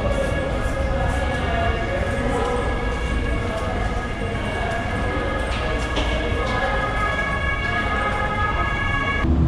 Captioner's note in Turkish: ambulans sireni